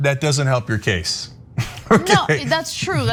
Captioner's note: laugh